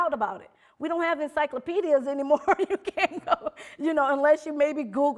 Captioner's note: laughing